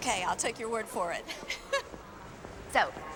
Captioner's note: laughs